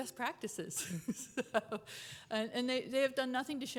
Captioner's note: chuckles